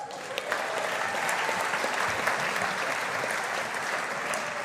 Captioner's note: audience applauding